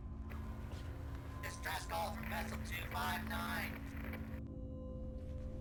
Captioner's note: radio Voice